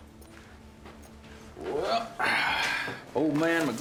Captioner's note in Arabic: تنهدات